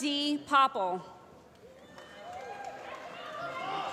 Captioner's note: applause